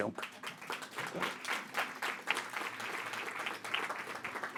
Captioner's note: audience clapping